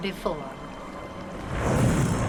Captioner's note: metallic wooshing